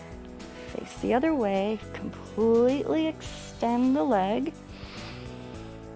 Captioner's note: inhales